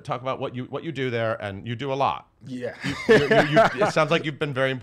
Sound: laughs

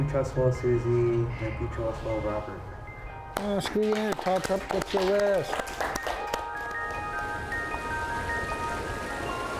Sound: speaking Yurok; rushing water

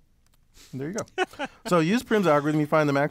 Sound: laugh

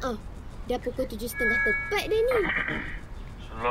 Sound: PA system chimes

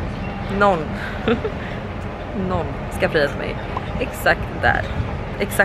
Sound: laughter

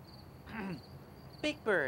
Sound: clears throat

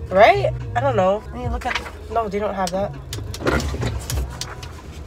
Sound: window bzzzz

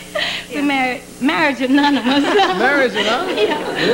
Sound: laughter

